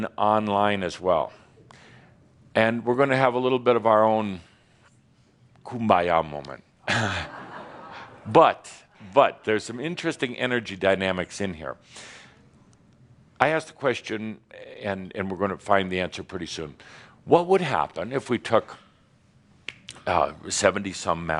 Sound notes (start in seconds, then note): 6.3 a few chuckles